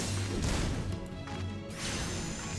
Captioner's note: gun fires